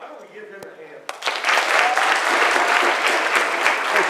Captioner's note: applause